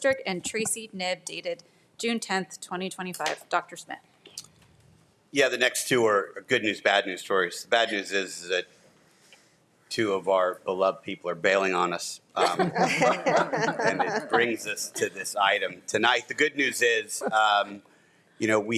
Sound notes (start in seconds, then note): 12.3 attendees chuckling